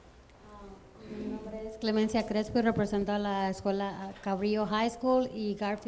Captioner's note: woman speaks in foreign language